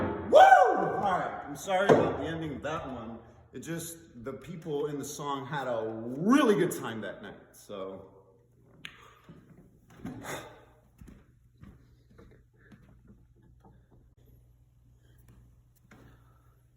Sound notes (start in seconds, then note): 8.0 cliks Tongue